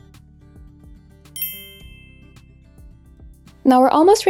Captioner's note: bell chiming